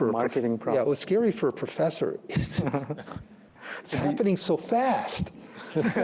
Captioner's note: laughs; laughter